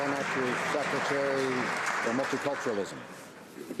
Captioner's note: some Applause